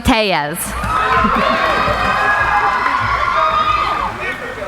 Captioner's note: cheering